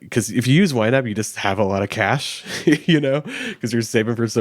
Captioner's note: chuckles